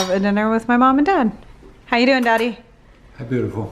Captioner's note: kiss kiss